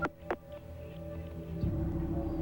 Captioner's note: telephone hangs up